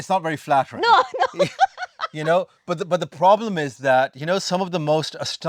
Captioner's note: laughs